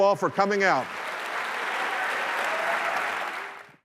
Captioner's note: applause